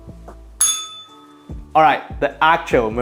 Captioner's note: bell rings